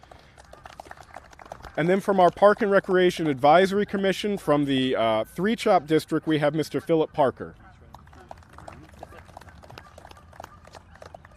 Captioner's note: applause; applause